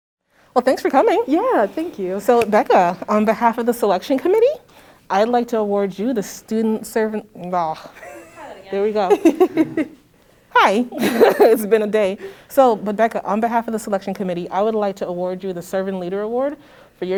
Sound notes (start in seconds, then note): 9.0 laughter